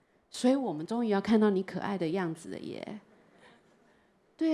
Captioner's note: Mandarin